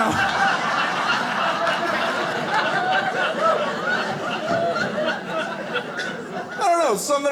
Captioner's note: audience laughing